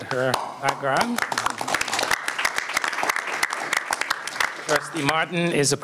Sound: applause

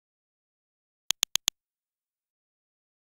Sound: sound of computer mouse

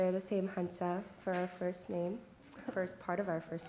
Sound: non-english speech

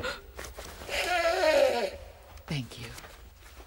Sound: blowing Nose

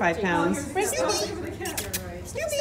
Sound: making kissing sounds

